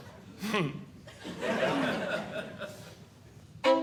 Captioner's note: audience Laughing; classical Music